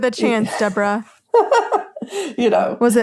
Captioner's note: laughs